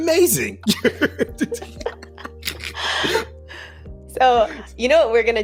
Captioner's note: both laughing